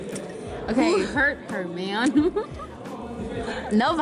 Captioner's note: chuckles